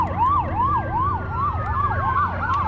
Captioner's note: sirens wailing